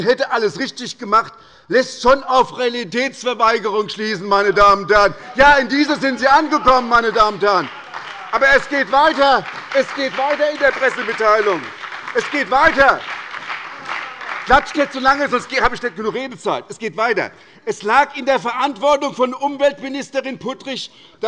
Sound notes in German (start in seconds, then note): 9.7 Beifall bei der SPD, der LINKEN und bei Abgeordneten der FDP